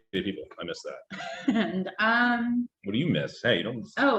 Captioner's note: laughing